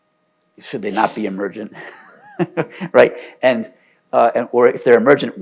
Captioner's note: laughs